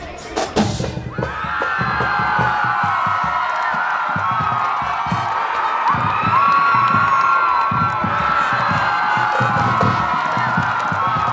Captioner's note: cheering